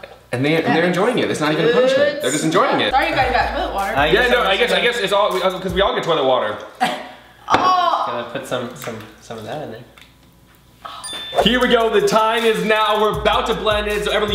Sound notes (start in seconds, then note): 11.0 ding